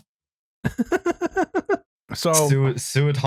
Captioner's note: laughs